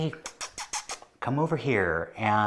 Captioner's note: kissing noises